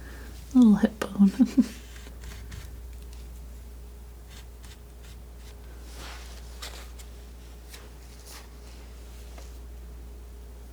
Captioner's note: laughs